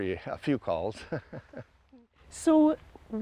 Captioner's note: laughs